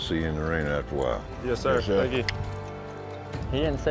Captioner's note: cowboys responding